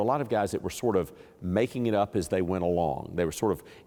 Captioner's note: none